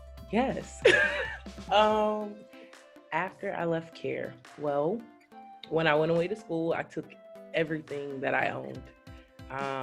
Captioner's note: laughs